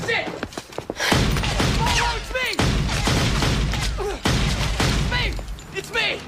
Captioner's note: gunfire